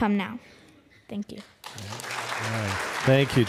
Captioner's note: applause